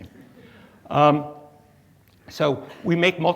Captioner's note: audience chuckles